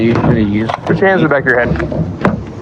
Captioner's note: none